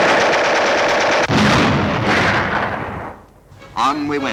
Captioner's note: bombs exploding